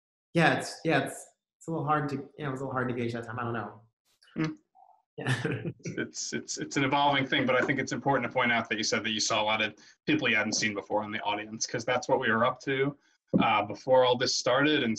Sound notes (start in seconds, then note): 5.2 laughs